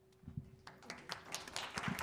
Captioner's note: applause